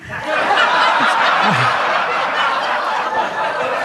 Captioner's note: audience laughs